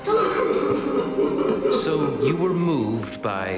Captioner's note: soft piano music; Harry sobbing